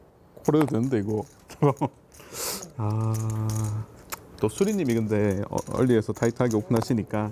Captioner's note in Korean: 콧방귀